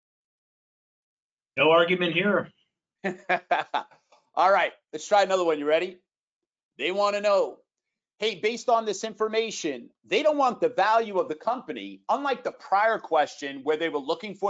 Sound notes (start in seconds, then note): 3.0 laughing